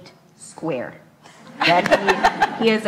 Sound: laughs

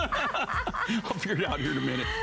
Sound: laughter

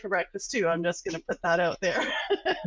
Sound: laughs

